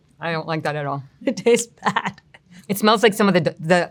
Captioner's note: chuckles